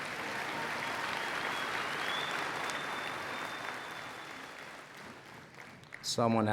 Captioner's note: applause and Cheering